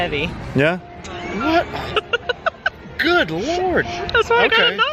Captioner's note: laughing